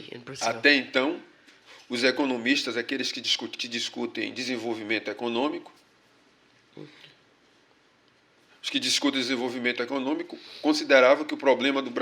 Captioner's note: speaking portuguese